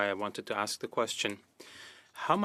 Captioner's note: speaking French